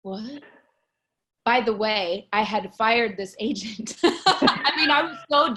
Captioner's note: laughs